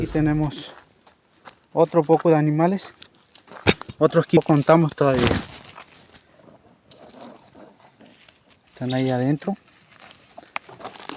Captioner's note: speaking Spanish